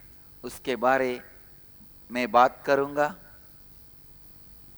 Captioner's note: hindi